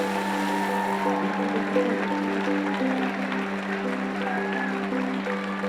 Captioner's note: cheering